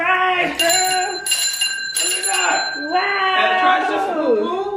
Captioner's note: bell ringing